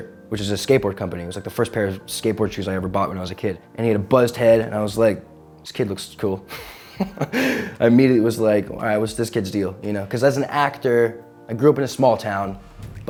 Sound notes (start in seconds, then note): 6.5 chuckles